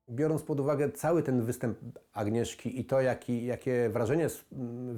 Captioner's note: speaking in foreign language